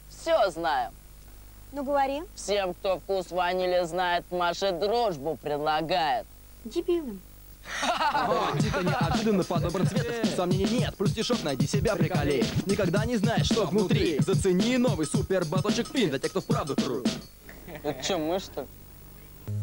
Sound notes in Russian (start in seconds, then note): 7.6 смех; 17.5 смеётся